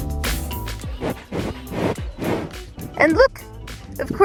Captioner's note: sniffing sounds